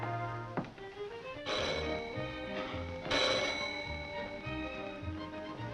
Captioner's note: doorbell ringing